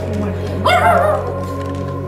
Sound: dog barking

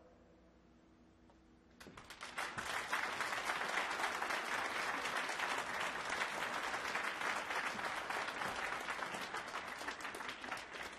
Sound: applause

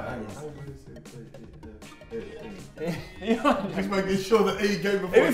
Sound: saying the alphabet under his breath

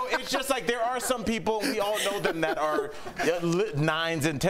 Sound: laughter

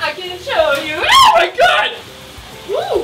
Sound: sings; screams

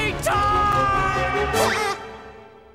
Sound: screaming

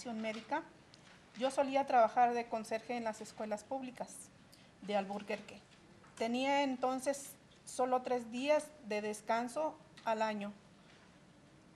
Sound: reading in spanish

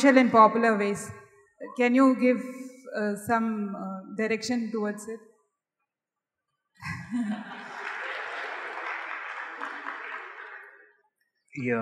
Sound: applause

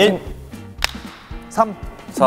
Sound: clap

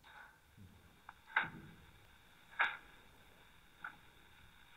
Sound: record scratches

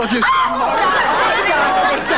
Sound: all laughing

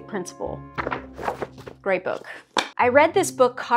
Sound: pages flapping

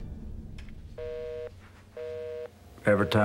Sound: busy signal

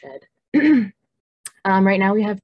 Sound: clears throat

